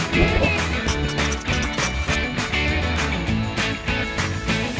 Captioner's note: upbeat music; marker scratching